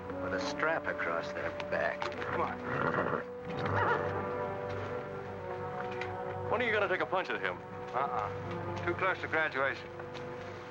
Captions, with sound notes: With a strap across their back. Come on. (horse whinnies) - When are you gonna take a punch at him? - Unh-unh, too close to graduation.